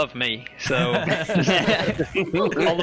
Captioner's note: all laugh